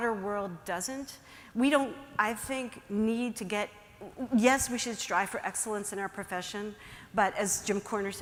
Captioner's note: fumbles words momentarily